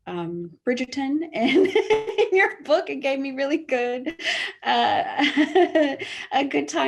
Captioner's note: laughs